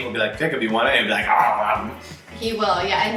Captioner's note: fake gobbling